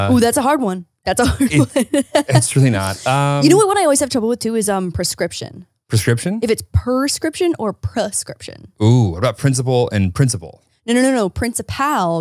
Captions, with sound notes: - Ooh. that's a hard one. That's a hard one. (laughing) - It's truly not. - You know what I always have trouble with too is prescription. - Prescription? - If it's perscription or prescription. - Ooh, what about principle and principal? - No, no, no, no principal